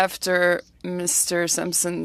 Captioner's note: speaking French